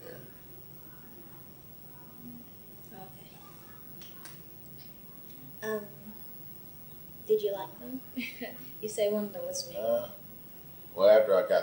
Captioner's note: laughs